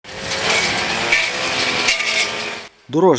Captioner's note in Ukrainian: Шум електрокоси